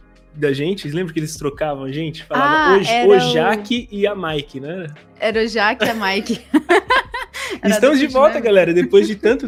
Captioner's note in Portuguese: risos